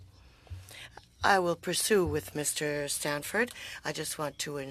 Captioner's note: speaking French